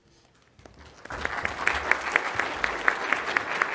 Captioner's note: applause